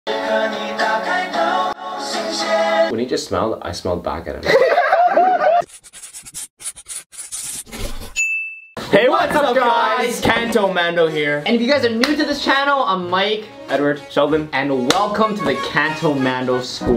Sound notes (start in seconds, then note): 4.4 laughing; 14.8 sassy clap